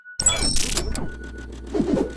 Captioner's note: high pitched electronic tones; electronic distortion; whooshing